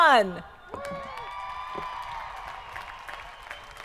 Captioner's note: crowd applauding